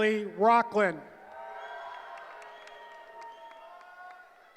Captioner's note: cheering